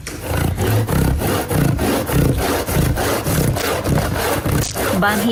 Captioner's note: grating